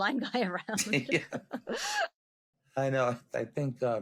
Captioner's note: both laughing